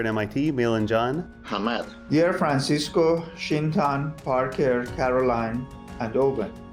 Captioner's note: non-english speech